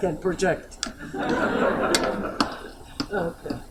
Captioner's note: laughter